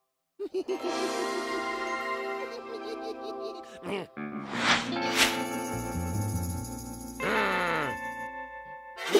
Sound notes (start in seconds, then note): 0.4 giggling; 7.2 grumbles